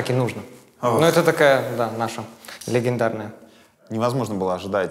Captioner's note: sighs deeply